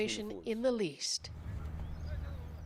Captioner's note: speaking Foreign Language